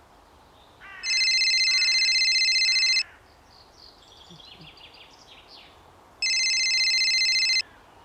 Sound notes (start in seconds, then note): 1.0 phone ringing